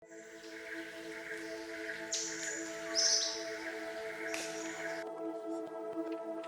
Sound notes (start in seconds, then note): 0.0 soft music; 0.1 birds chirping